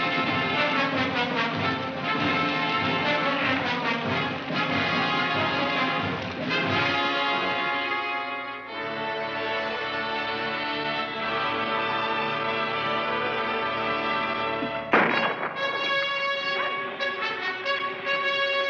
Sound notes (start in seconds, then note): 7.9 upbeat music; 14.6 dramatic music; 14.9 pistol fires